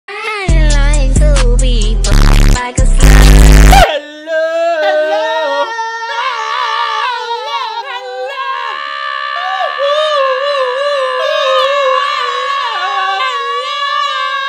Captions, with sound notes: (upbeat music) (static sound) - Hello! Hello! Hello! Hello! Hello! Hello!